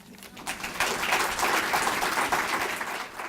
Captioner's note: clapping